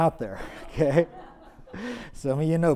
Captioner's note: audience laughs